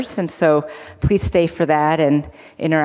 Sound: none

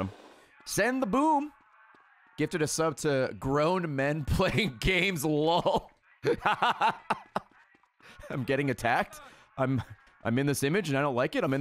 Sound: laughs

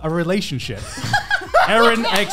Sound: laughing

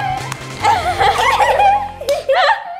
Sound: laughing

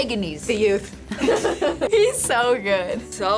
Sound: both laugh

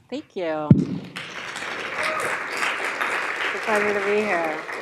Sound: audience applauds

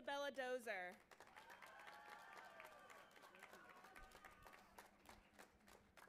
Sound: audience applauding and cheering

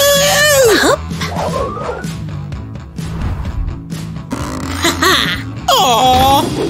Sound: whispering; evil laughter

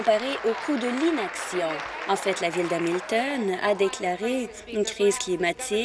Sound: applause

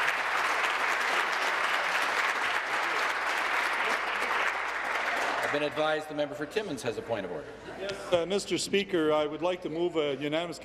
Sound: applause

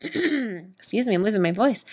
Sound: throat clearing

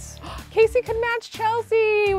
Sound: gasps

